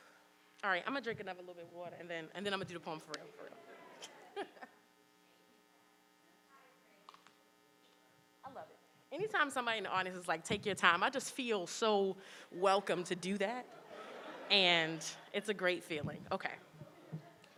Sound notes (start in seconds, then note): 3.9 chuckles; 13.7 audience chuckles